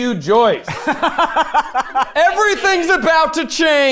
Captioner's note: laughing